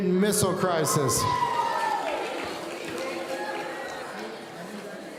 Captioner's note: audience cheering